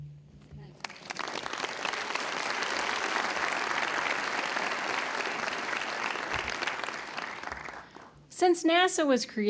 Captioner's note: applause